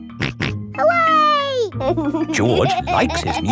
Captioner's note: snorts and laughs